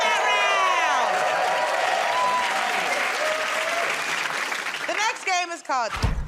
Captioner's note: cheers and applause